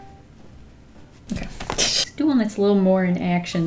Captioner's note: laughs